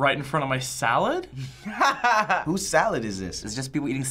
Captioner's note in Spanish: risas